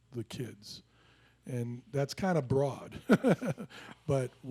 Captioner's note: laughs